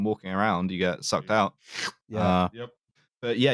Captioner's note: schloop